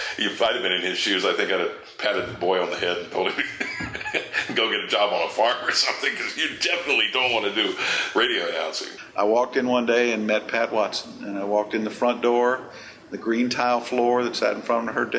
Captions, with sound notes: If I'd a been in his shoes, I think I'd uh patted the boy on the head and told him [chuckles] go get a job on a farm or something. Cause you definitely don't want to do radio announcing. I walked in one day and met Pat Watson. And I walked in the front door the green tile floor that sat in front of her desk